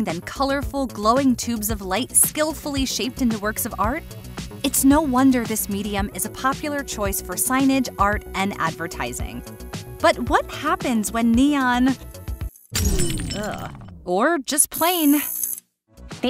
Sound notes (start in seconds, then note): 12.6 glass shattering